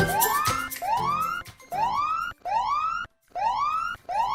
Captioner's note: alarm ringing